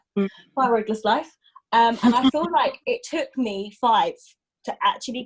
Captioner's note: laughs